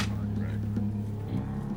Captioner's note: pamphlet drops